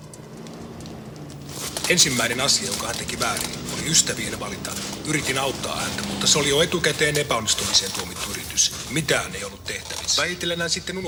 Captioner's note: speaking finnish